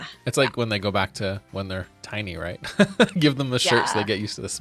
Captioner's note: laughing